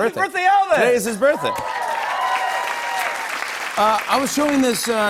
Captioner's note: cheers and applause